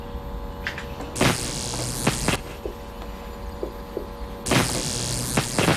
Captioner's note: electrical shocking